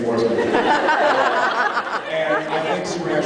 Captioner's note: laughs